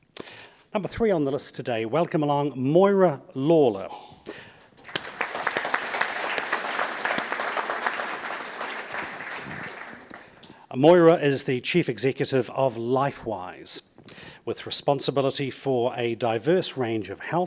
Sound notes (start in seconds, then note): 4.6 audience applauds